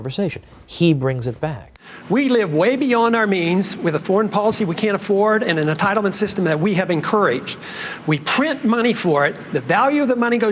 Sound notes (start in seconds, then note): none